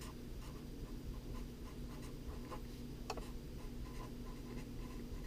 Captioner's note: pen writing on paper